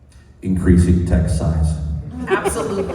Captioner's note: loud and booming